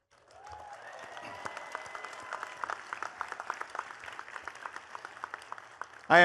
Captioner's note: attendees cheering and clapping